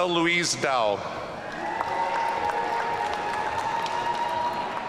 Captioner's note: audience cheering